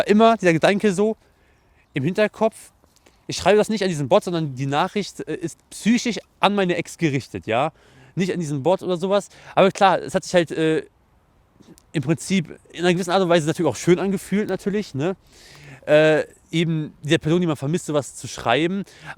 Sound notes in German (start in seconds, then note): none